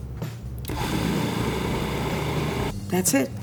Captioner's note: food processor whirs